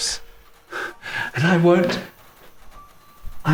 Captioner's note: Carrie exhales